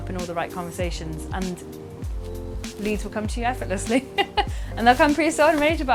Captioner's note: laughs